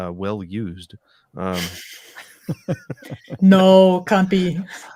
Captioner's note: laughing